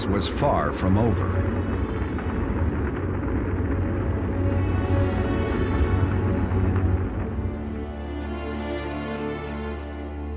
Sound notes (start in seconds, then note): 3.3 rocket engine roars